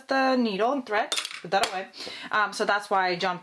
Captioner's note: thread falling